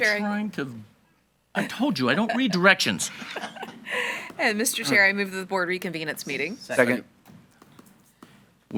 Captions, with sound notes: - Mr. Chair- - I'm trying to. I told you I don't read directions. (board members chuckling) - And Mr. Chair, I move to the board to reconvene its meeting. - Second. - Second.